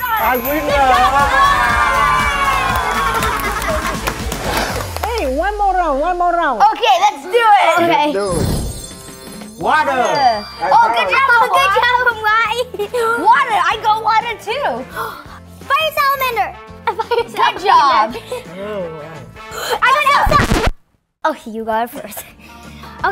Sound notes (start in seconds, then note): 0.6 audience cheering; 15.8 gasps; 20.1 record scratching